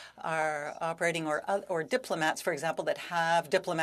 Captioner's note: speaking French